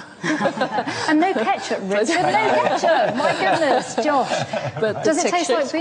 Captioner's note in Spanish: risas